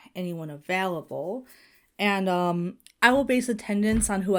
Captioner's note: none